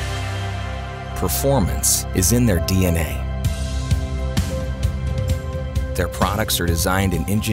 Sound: voiceover

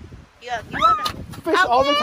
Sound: screams

